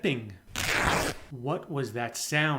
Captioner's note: ripping sound